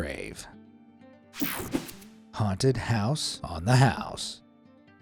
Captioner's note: cartoon swoosh